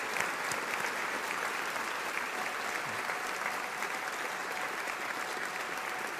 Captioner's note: audience continues applauding